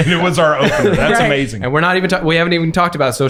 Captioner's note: laughing; laughs